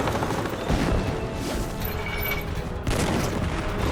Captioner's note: shells exploding